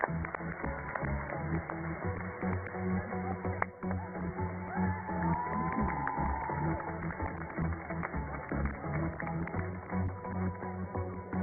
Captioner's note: cheers and applause